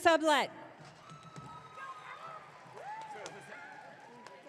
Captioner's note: audience cheering